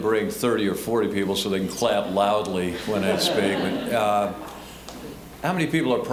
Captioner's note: audience laughing